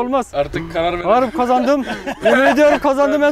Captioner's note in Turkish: Gülüşmeler